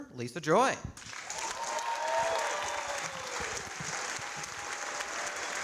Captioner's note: audience applauding